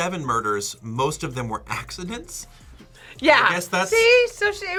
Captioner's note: laughs